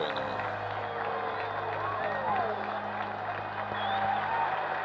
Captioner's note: cheers and applause